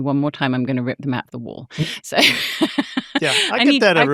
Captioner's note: chuckling